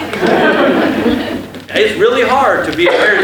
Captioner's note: laughter